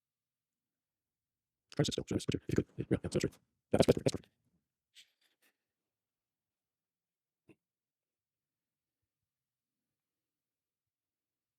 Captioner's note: silence